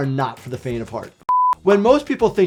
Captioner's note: beep